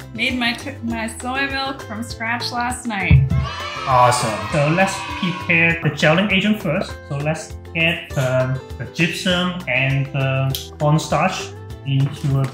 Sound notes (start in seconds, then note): 3.2 kids cheering